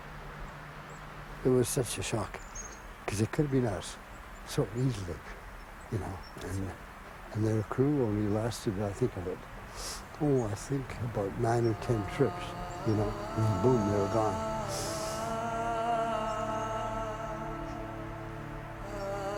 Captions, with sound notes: - It was such a shock cause it could've been us so easily. And their crew only lasted, now I think of it, oh I think about nine or 10 trips. Then, boom, they were gone. (sobs) (somber choral singing)